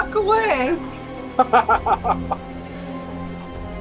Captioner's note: nervous laugh